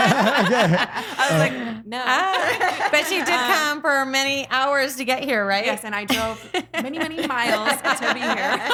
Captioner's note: laughing